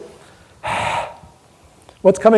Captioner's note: exaggerated exhalation